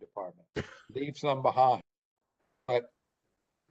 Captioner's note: laughter